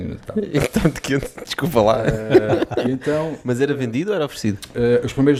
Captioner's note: laughing; laughs